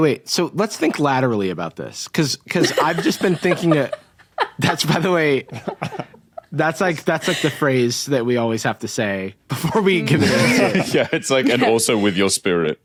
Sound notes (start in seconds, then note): 2.6 guffaws; 9.6 group cracks up